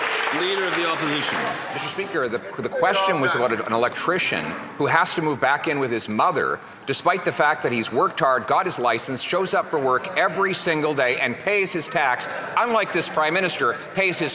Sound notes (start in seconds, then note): 2.6 some Applause